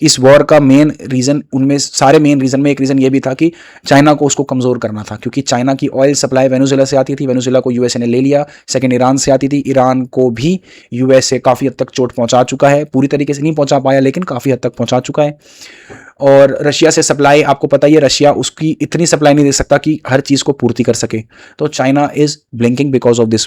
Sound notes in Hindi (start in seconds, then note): 15.4 नाक से की जाने वाली आवाज़